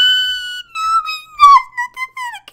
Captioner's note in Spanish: Chillido